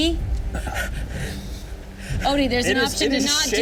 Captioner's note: Odie gasping